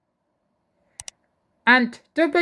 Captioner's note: click sound